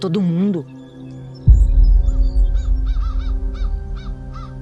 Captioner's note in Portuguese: impacto